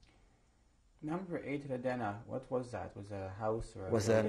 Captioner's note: non-english